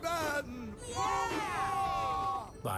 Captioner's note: engines Cheer